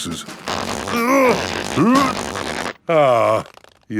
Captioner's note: grunting